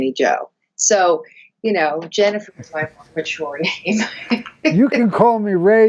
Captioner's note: chuckles